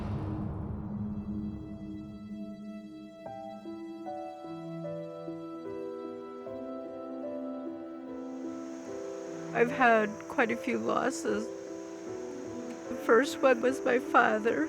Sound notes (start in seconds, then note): 0.1 melancholic music; 9.3 choking up